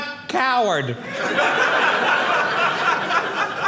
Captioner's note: audience laughing